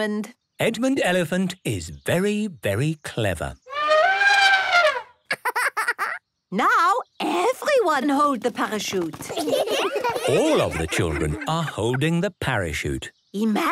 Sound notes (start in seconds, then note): 3.4 laughing; 3.6 trumpeting; 9.2 laughter